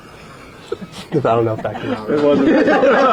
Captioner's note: laughter